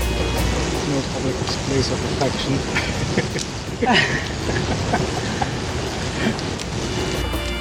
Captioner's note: laughter